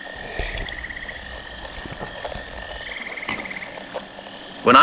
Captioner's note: sips fx, gulps, fx